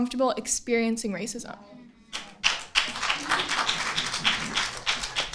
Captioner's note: audience applauding